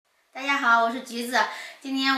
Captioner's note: Mandarin